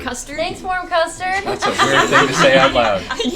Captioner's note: laughter